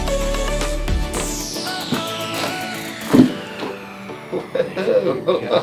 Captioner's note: cracking sounds; laughter